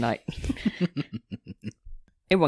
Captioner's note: chuckles